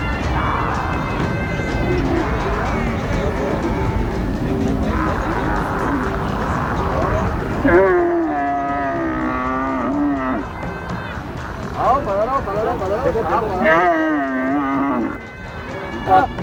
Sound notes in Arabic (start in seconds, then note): 12.8 الصوت المنطوق الأجنبي